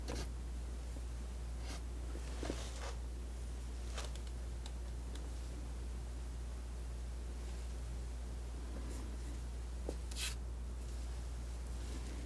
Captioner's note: scratching